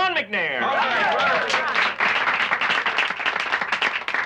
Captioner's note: applauding